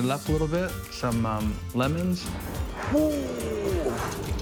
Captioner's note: grunts